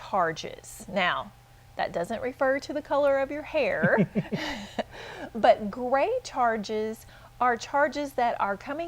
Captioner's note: chuckle